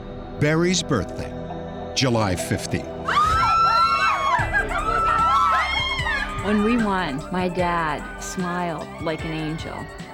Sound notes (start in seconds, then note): 3.0 screaming